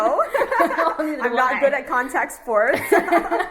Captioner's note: laughs